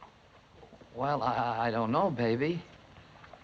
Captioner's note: stuttering